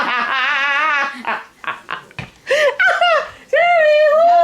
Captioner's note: hysterical laughter